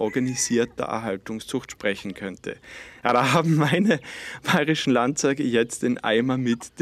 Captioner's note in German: lacht